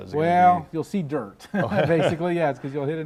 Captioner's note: chuckles